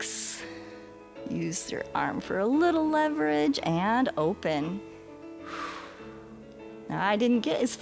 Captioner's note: exhales